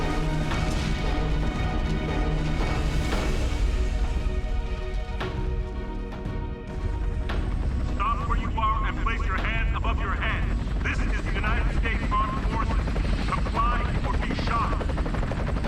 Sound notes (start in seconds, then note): 6.6 chopper whirring; 7.8 man over PA